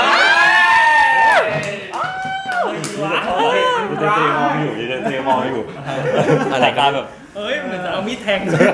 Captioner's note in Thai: ปรบมือ